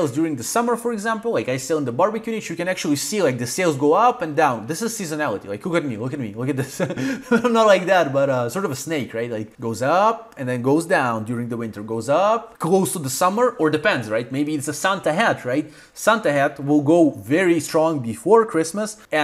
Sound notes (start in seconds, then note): 6.7 laughing